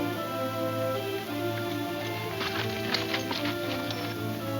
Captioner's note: spurs jingling